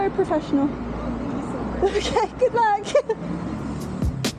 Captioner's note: laughing